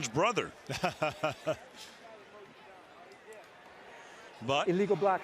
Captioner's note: laughs